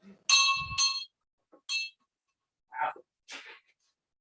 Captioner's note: bell rings